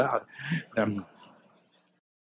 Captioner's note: laughter